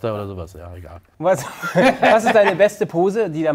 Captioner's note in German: Lachen